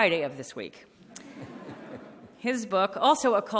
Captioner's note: audience laughing